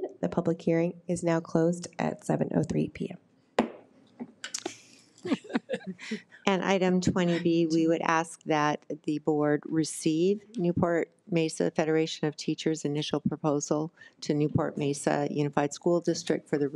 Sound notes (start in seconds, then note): 3.6 gavel bangs; 5.2 woman laughing